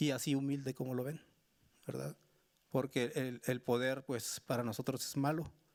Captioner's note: speaking Spanish continues